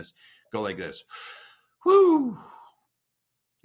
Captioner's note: exhales